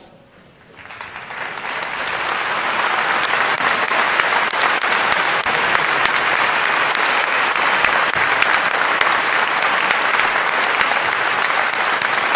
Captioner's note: applause